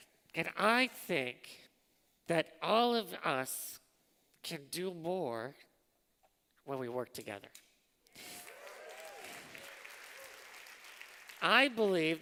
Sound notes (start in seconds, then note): 8.2 applause